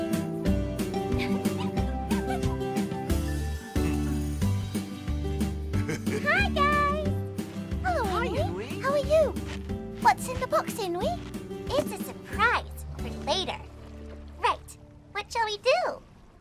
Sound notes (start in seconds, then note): 1.2 Grouchy laughs